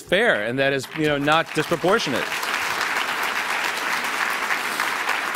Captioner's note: applause